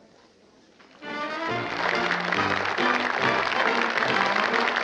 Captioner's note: applause